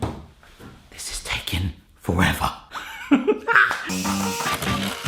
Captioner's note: laughs